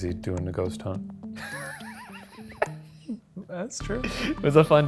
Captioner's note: laughs